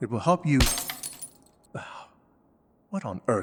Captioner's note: sound of cup being slapped away and shattering to the floor